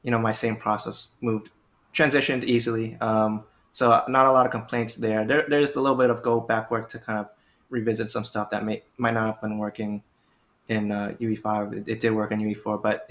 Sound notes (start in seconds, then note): none